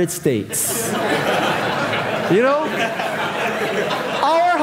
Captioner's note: audience laughing